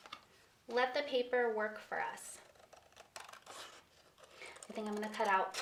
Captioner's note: scissors snipping